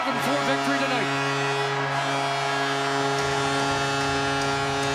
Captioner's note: cheering